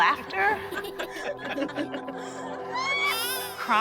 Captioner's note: laughter